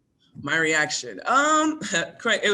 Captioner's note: chuckles